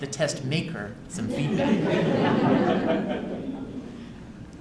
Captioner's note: laughter